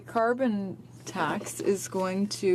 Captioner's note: speaking French